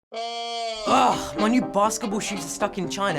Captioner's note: groans in frustration